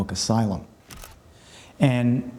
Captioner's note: camera clicks